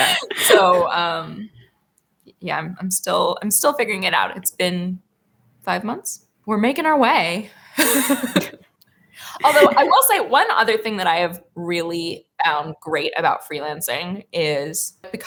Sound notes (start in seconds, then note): 9.4 laughs